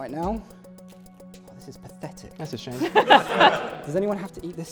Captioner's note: laughter